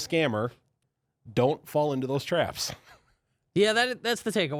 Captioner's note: laughs